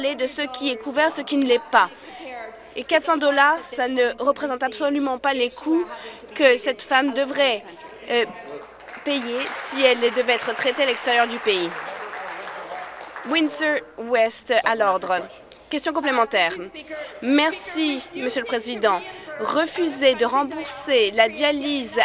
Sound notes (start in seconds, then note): 11.5 applause